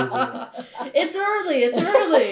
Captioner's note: laughter